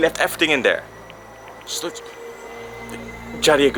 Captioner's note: stutters